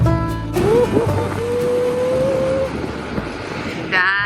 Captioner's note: wind blowing